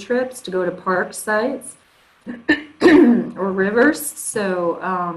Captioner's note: throat clearing